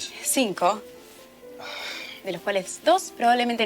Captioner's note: sigh